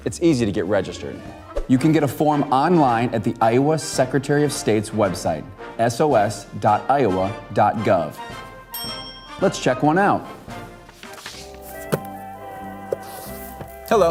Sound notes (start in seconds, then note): 8.7 bell rings; 11.2 upbeat music